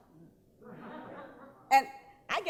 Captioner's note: laughing